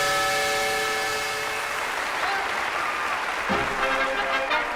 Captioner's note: steam whistle; applause; marching band music